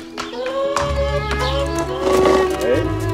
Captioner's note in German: Hühnerlaute